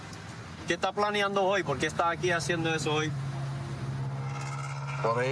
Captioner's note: speaking spanish